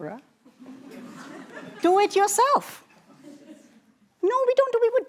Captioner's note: laughter